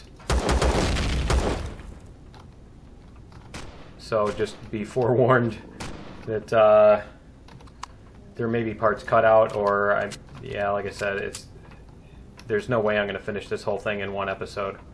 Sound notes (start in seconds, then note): 0.1 pistol firing; 0.2 explosion; 3.4 turret firing; 10.7 reloading